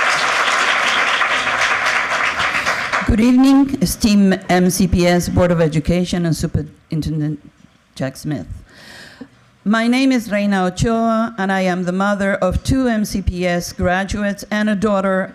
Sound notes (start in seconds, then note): 1.8 applause